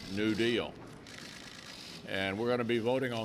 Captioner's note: cameras clicking